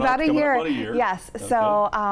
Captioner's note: chuckles